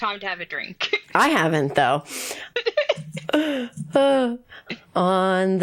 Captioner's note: laughs